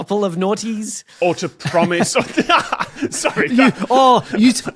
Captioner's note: laugh